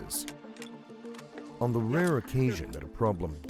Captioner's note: voiceover